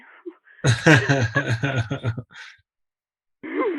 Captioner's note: laughs